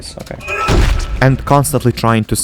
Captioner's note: stomp